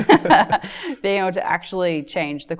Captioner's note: laughs